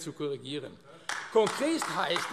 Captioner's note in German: Beifall AfD